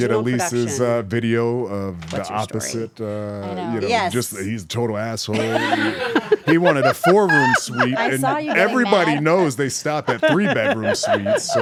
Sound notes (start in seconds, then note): 5.3 laugh